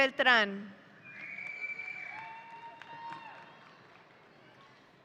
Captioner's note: audience cheering